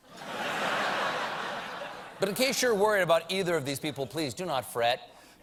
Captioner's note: laughter